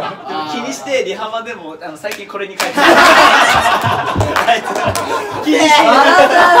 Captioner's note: clapping